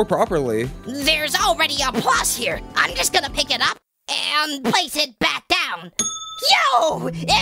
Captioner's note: ding!